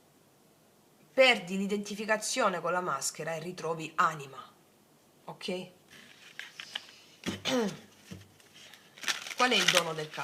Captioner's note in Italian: schiarire la voce